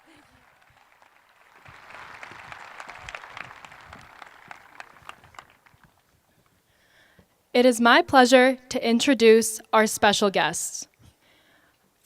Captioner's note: applause